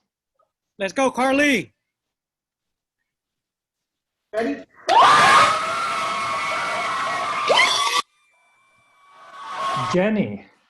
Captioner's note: cheering